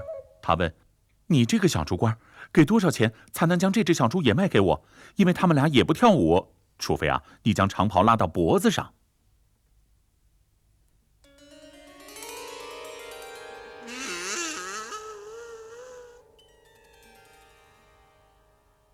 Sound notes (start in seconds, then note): 13.8 grunting